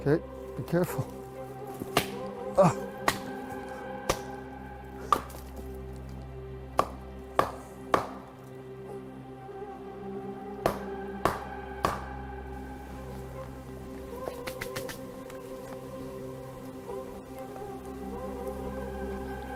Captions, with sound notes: De acuerdo, ten cuidado. (golpe de madera) (música misteriosa)